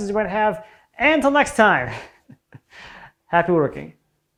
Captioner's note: laughs